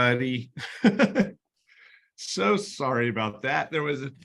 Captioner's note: laughter